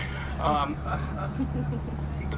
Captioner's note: crowd chuckles